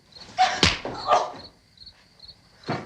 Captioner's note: groans